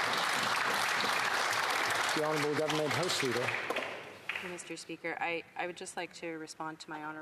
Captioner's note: applause